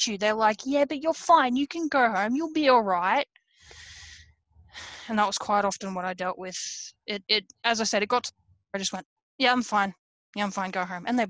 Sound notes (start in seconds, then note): 3.6 breathes heavily